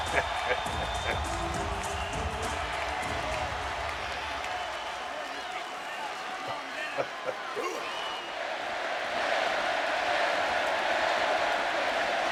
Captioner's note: applause